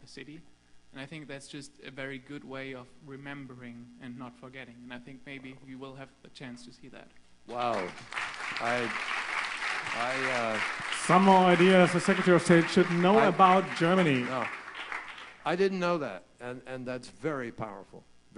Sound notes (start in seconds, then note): 8.8 applause